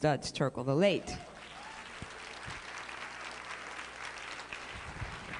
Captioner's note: applause